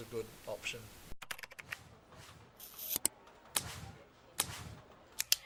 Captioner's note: keyboard Clicking